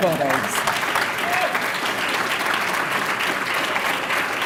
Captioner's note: applause